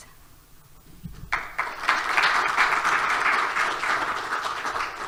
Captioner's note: audience applauds